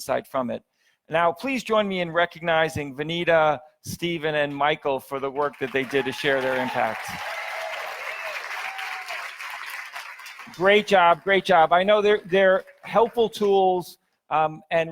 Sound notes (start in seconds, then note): 7.0 audience applauds; 7.0 audience cheers